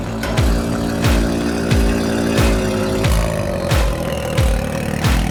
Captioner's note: Can-Am Engine Purring